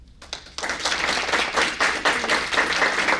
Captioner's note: applause